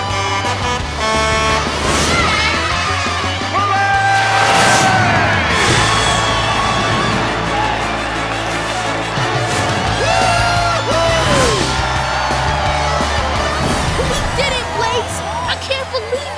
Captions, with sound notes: [screaming] Blaze! [cheering] Woo hoo! We did it Blaze, I can't believe it!